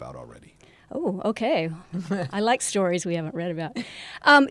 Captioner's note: laugh